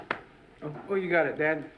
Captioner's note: patting